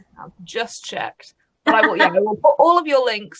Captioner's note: laughs